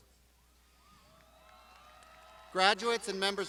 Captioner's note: crowd shouting